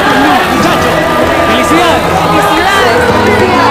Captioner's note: Spanish